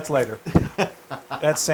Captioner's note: laugh